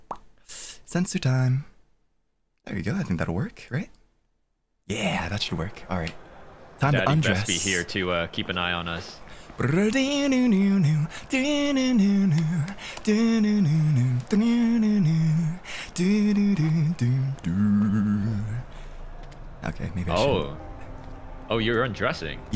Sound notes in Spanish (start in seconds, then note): 9.4 Tarareando